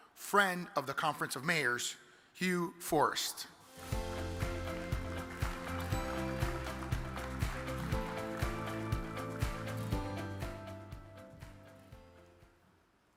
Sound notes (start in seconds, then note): 3.7 cheerful music; 3.8 audience claps